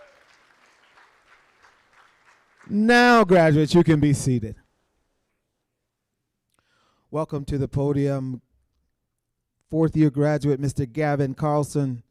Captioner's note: applause